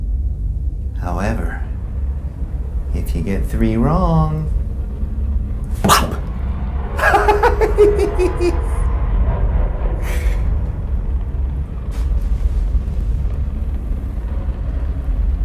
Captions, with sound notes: However, if you get three wrong, pop! (laughing)